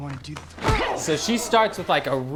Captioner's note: kick thump